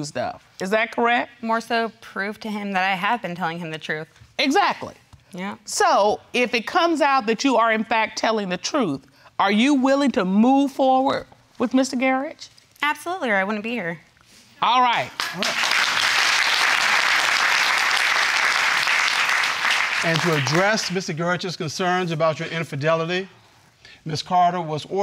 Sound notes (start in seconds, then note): 15.0 audience clapping